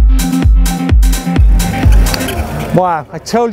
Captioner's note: motor whirring